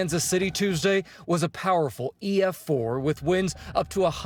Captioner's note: sirens